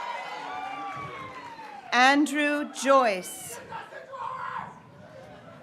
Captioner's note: graduates cheering